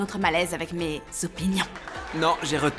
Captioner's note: audience laughs